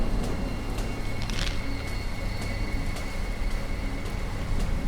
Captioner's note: pills rattling